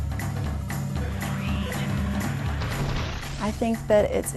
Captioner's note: robotic voice